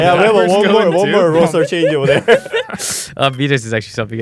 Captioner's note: laughs